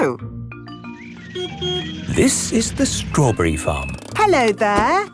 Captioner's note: beeps